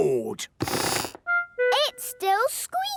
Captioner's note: squeaks